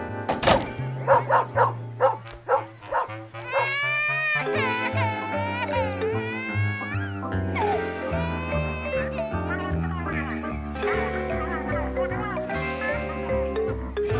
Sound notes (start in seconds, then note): 1.0 barking; 3.2 baby crying